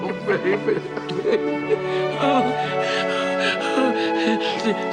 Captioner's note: heavy sobbing